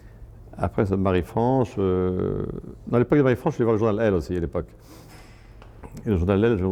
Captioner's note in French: grognement